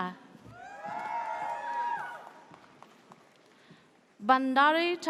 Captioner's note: audience cheers